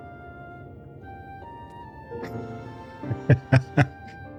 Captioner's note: laughs